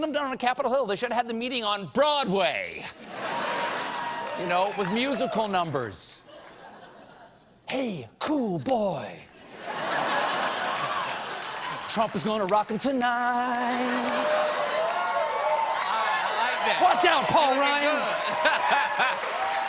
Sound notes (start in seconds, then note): 9.4 laughter; 13.5 cheers and applause; 18.0 laughter; 19.4 cheers and applause